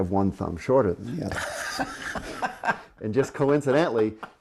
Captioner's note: laughing